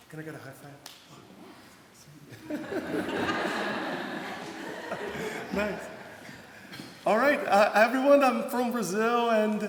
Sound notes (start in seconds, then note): 2.3 laughter